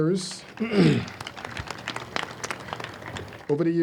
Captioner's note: audience applauds